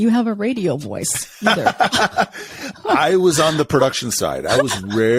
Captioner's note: laughs